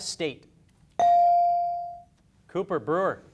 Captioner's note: beep